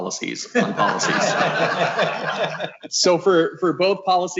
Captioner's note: committee members laugh